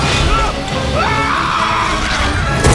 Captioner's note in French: Hurlant